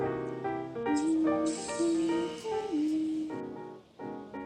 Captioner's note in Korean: 흥얼